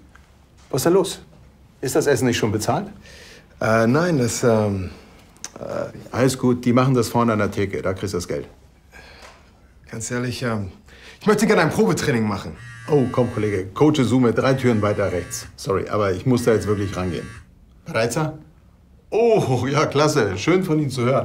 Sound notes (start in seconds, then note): 12.6 cell phone vibrates